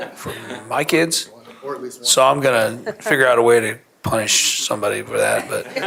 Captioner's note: laughter